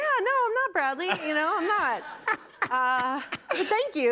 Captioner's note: laughter